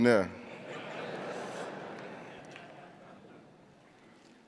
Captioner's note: crowd laughing